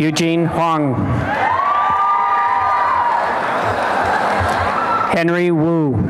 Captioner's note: applause and cheering